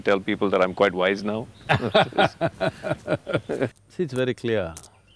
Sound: laughs

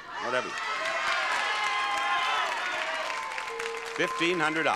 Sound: audience shouting

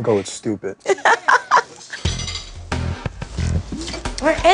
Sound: laughs

